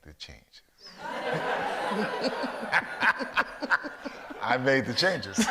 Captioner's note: audience laughs